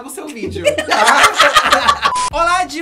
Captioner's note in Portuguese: risos